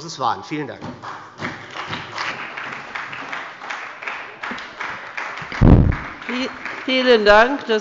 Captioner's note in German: Beifall bei der SPD